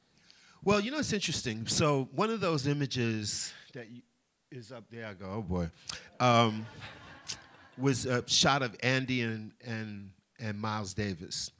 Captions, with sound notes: Well, you know, it's interesting. One of those images that is up there-- Oh boy!-- (laughter) was a shot of Andy and Miles Davis.